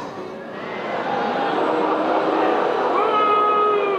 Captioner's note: audience boos